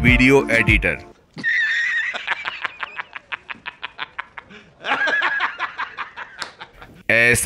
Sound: laugh

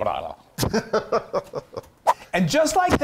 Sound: laughs

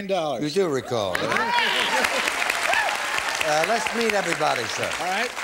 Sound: applause

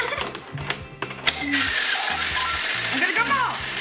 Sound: pinball noises

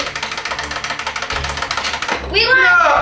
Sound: timer ticking

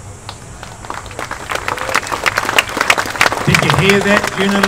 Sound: applause

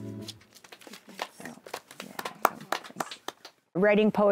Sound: applause

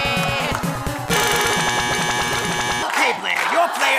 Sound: buzzer buzzing

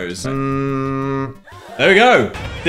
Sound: humming

